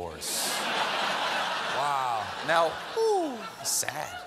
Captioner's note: laughter